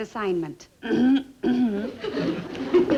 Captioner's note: Joan clearing throat